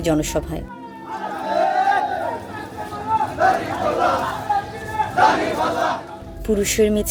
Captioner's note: Chants and slogans for Jamaat-e-Islami